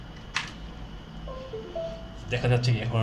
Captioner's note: notification alert for adding USB device